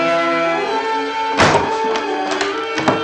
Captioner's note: door slams